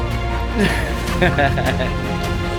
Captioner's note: laughing